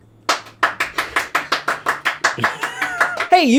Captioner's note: clapping